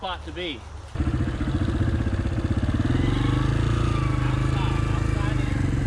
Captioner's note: bike engines roaring